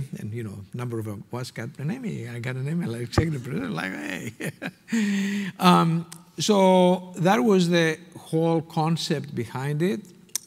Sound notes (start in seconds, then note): 4.2 laughing